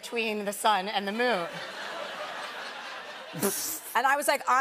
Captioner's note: laughter